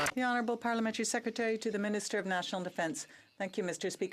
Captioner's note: some Applause